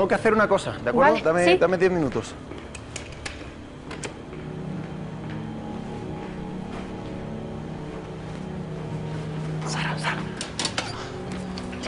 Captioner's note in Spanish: Whispers